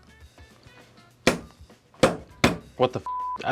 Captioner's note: smacking the table